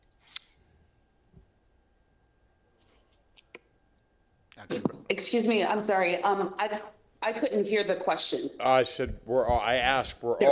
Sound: off microphone

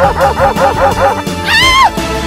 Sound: girl Scream

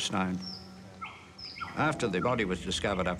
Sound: birds call

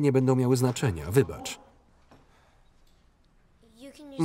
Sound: speaking in Spanish

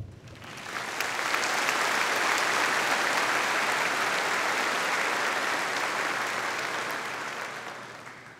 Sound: audience applauding

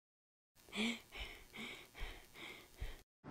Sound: panting

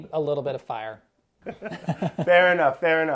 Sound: laughter

